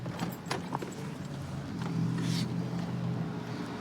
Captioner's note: distant traffic hum